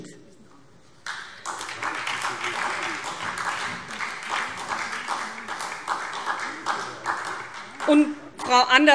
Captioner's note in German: Beifall SPD